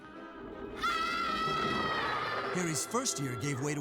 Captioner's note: all scream